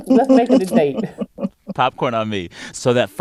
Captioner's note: laughter